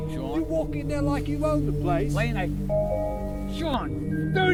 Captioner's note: TV noises